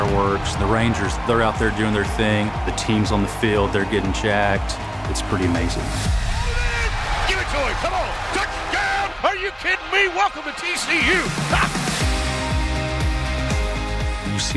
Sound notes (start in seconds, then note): 6.5 shouting; 10.7 serene music